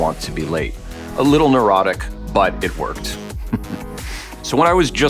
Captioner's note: laughs